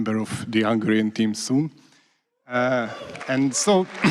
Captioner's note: applause